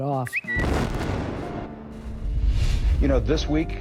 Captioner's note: bird tweeting; bomb exploding